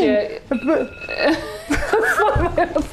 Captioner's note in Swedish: alarmet ringer